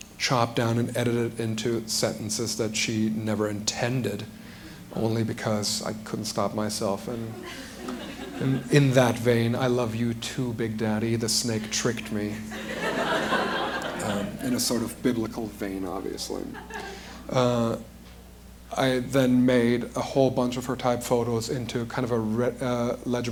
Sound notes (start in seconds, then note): 12.4 laughter